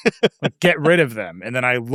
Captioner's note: laughing